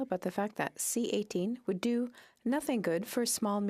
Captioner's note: speaking French